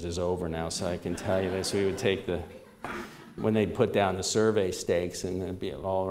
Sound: laughter

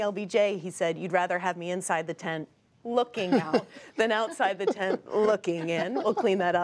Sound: laughter

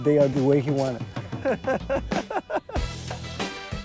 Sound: laughs

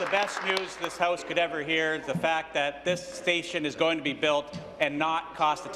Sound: applause

